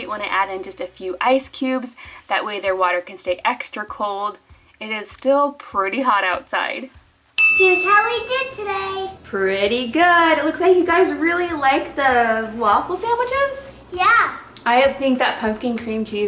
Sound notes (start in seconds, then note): 7.8 excited Voice; 14.1 excited Voice